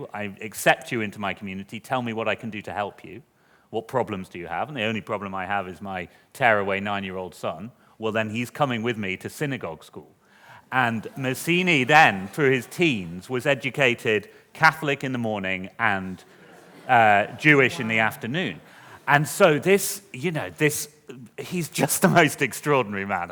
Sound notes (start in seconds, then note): 11.0 laughter